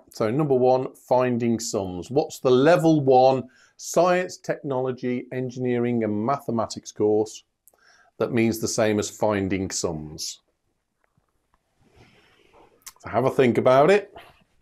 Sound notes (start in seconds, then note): none